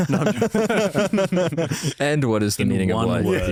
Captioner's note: laughs